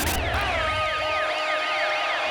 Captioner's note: siren wailing